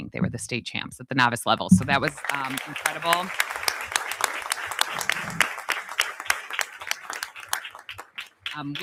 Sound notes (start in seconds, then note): 1.8 audience applauding